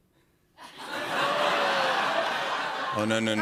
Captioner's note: laughter